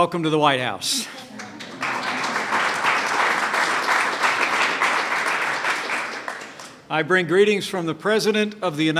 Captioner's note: applause